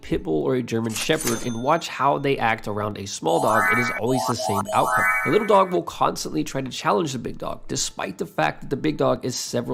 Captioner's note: overpowering sound effects